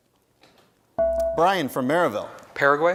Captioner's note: bell rings